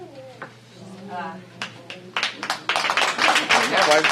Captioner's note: applause